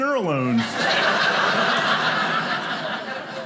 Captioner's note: audience laughing